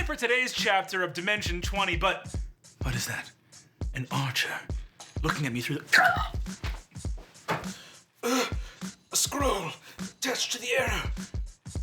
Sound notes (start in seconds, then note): 3.1 upbeat music; 5.8 groaning; 7.6 gasping